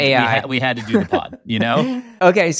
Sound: chuckling

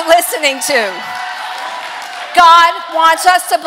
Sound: congregation cheers

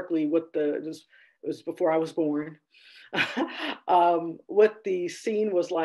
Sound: laughs

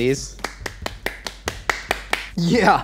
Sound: clapping

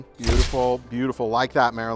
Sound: shutter snaps

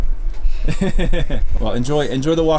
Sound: laughing

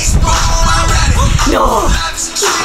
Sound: dramatically

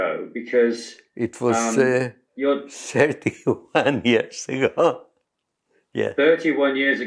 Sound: laughs

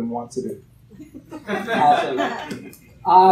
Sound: laughter

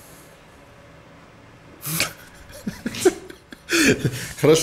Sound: bursts out laughing

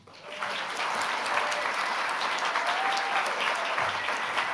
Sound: audience applauding

